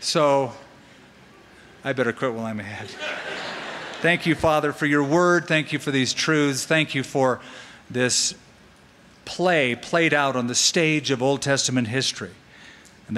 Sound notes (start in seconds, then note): 2.8 laughter